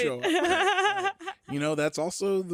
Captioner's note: laughs